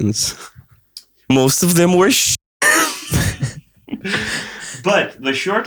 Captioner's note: laughter